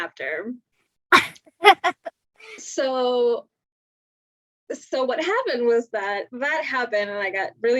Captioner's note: laugh